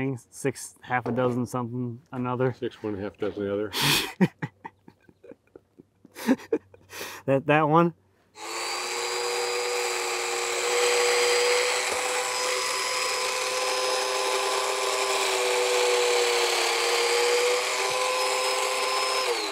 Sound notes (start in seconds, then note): 3.7 laughs